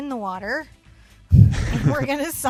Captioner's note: both chuckle